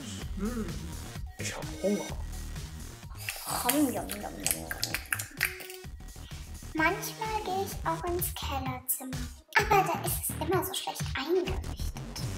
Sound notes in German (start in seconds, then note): 3.1 Schmatzen